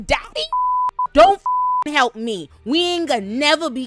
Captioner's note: beep